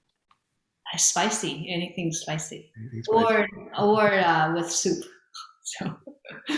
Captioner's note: chuckles